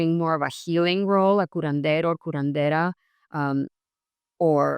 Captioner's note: speaks in Spanish